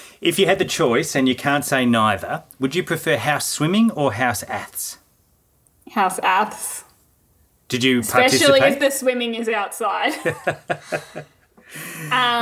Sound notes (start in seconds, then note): 10.1 both laughing